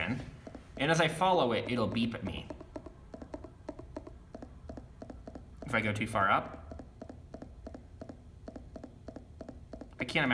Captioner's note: VoiceOver Beeps